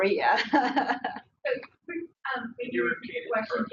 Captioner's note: laughs